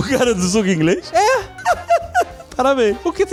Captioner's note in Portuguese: risos